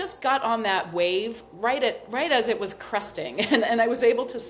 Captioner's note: chuckles